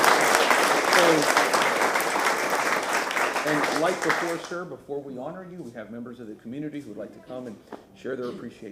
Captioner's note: applause